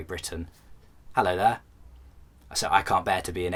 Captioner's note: posh accent